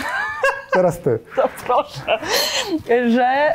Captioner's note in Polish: śmiech